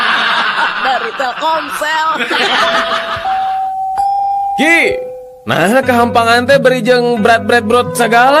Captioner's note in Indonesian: tertawa